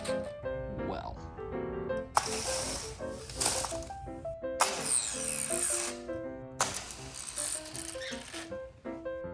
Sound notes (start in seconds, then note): 6.6 snap